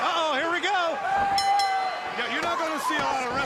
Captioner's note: bell ringing